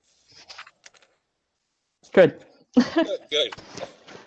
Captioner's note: laughter